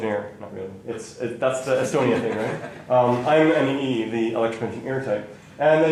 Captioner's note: laughter